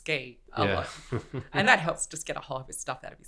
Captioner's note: laughs